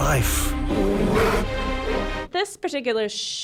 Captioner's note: bears roaring